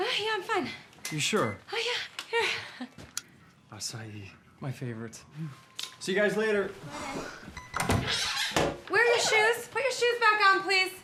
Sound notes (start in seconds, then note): 7.5 phone ringing